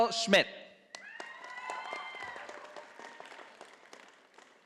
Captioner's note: audience applauding